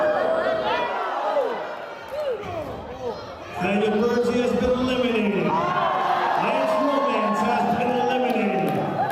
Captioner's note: cheers and Applause